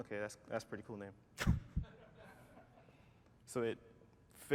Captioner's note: laughter